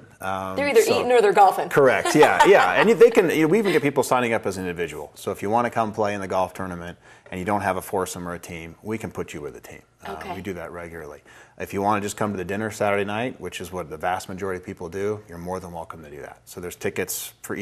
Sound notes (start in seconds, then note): 2.0 laughing